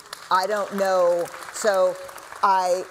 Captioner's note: applause